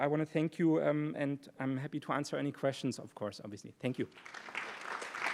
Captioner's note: applause